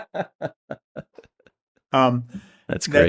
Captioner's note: laughter